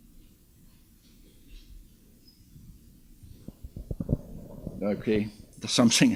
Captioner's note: none